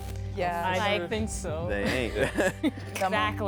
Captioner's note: laughs